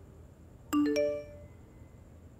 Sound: message tone

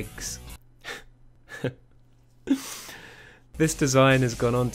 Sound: starts laughing at the absurdity of that script line

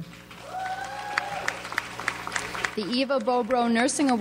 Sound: audience applauds

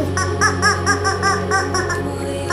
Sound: honking

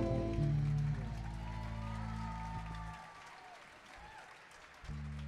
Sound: audience applauding

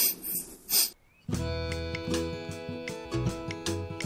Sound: sniffs sadly

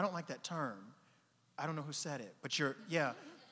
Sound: audience laughing

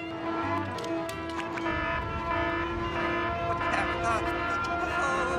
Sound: beeping

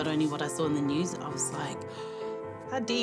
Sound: gasp

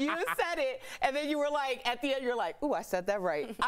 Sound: laughter

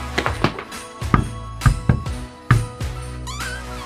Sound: upbeat festive music; hand knocking; door creaking

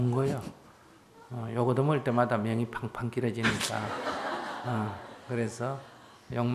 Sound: audience Laughter

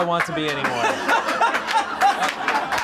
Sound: laughing

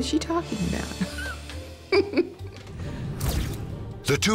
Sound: laughs

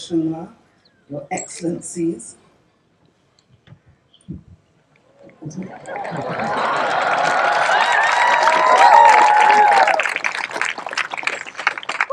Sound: cheering/Applause

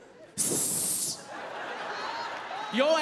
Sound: hisses

